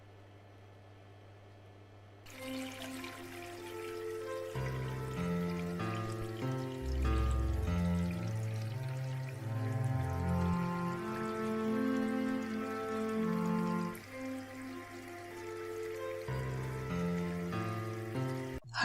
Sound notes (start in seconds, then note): 3.8 piano; 3.8 running water